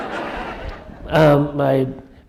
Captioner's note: laughter